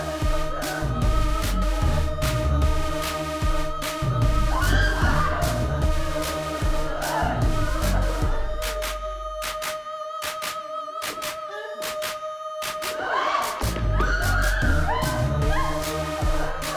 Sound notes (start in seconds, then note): 4.5 both screaming; 6.6 upbeat music; 14.0 both screaming